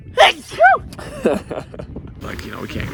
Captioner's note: laughing